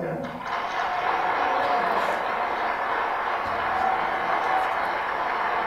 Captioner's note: applause